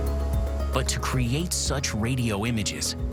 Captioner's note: none